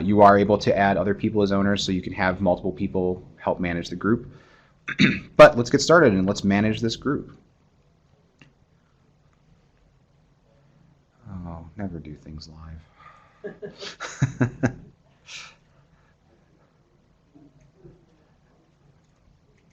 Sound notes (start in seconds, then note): 13.4 laughter